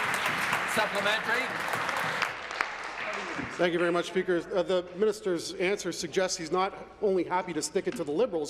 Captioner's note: applause